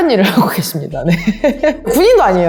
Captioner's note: laugh